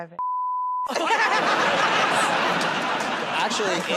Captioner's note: laughter and applause